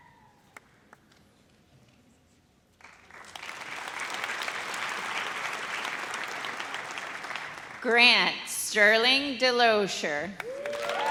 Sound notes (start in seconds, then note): 2.8 audience applauds; 10.4 audience cheers